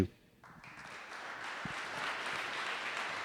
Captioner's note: audience applauding